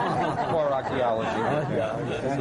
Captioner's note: laughter